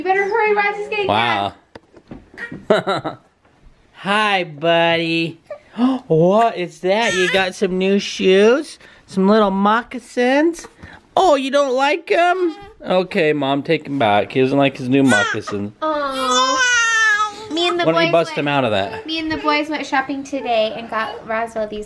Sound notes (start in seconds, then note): 2.4 laughs